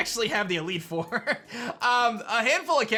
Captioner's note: chuckles